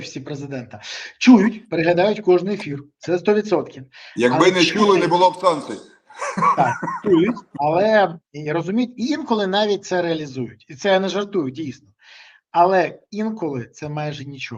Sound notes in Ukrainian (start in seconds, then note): 6.1 сміх